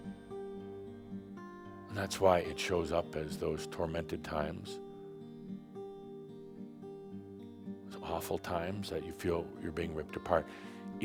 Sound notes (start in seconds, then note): none